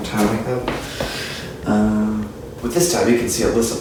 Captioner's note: deep breath